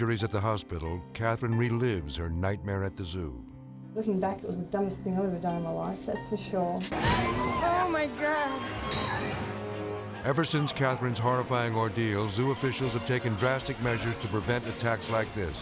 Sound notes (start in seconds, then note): 7.0 screaming